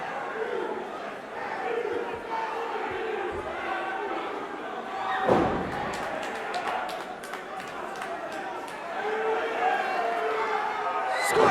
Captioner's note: crowd chatter